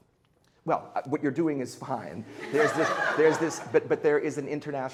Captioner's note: students laughing